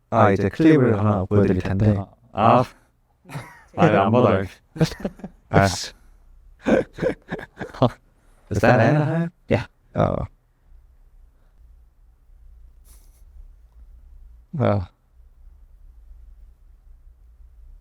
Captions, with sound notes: I'm going to show you a clip. Ah! Why aren't you watching? *laughter*